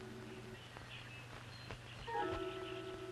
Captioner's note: birds chirping; stirring music